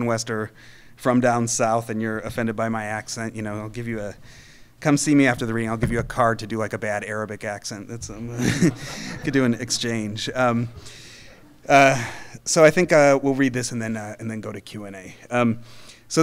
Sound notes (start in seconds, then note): 8.3 audience laughing